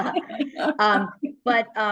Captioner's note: laughter